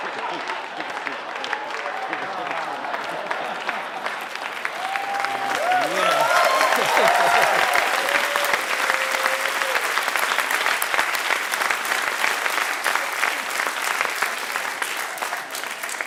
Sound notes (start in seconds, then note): 3.1 audience clapping; 5.5 audience cheering